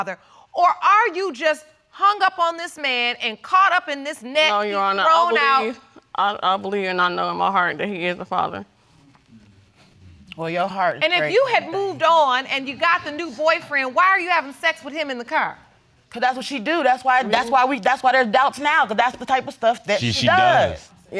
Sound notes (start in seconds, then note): none